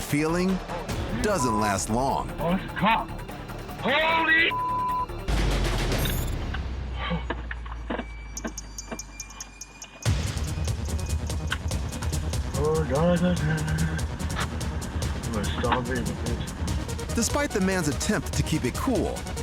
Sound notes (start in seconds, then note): 6.9 gasps